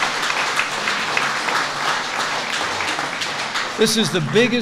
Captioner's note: applause